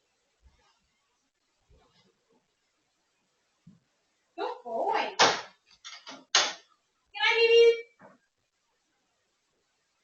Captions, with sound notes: Good boy. (cage door thuds) Come on, baby.